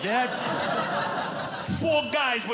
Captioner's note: audience laughing